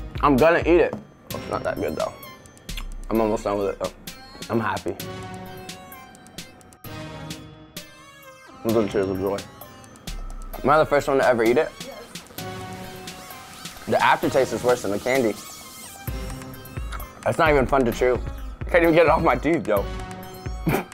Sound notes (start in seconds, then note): 5.8 suspenseful music; 12.2 female voice